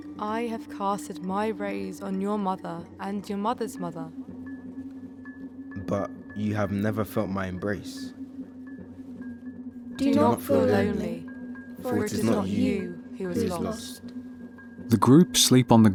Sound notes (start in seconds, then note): 10.0 multiple voices